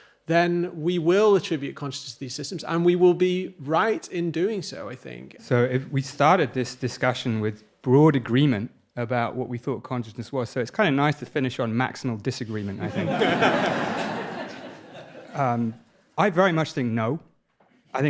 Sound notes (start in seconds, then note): 12.7 audience laughing